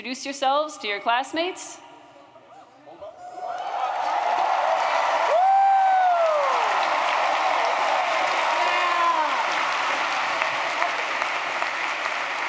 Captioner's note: cheering